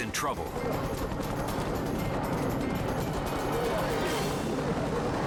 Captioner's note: helicopter blades chopping